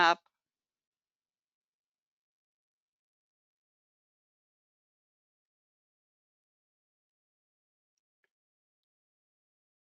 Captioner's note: 9 seconds pause